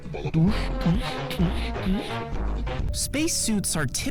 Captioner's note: vocalizing; upbeat music